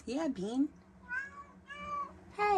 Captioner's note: meows x2